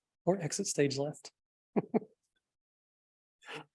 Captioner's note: chuckling